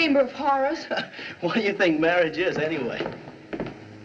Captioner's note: chuckles